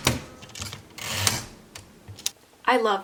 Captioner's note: keyboard sounds